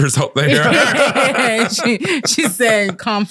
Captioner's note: all laughing